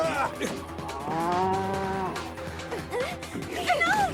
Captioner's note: growling